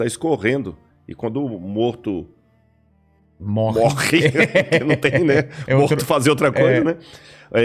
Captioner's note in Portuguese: risadas